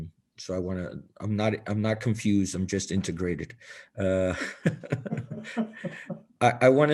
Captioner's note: laughter